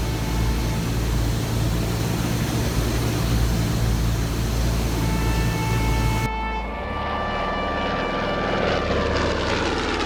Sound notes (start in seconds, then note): 0.8 airplane propeller whirring; 7.0 airplane motor